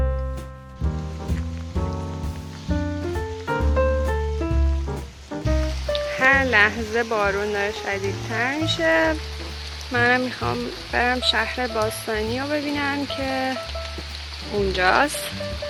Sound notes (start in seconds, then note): 0.7 the sound of rain